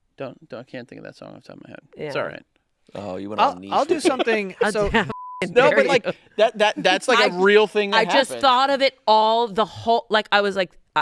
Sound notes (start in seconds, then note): 5.0 beep